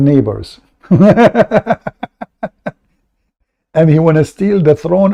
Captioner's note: Ketawa